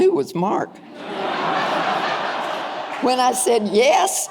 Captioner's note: audience laughing